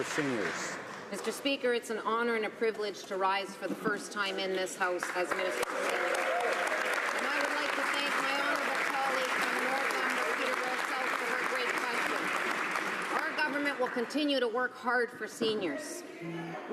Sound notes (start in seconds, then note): 10.5 some applause